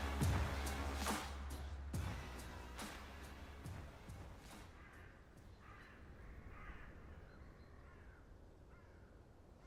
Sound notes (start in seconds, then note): 4.4 birds cawing